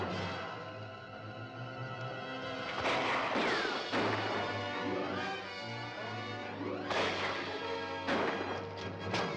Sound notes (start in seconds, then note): 2.8 gun firing